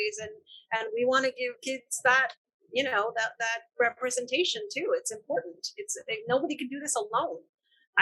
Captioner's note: none